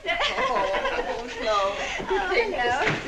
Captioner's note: both giggling